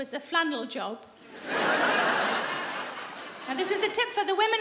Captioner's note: laughing